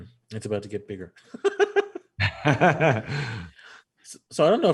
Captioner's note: both laughing